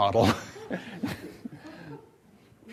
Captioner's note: laughter continues